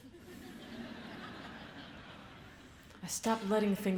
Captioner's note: audience laughs